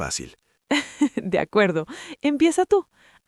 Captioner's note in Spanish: Risas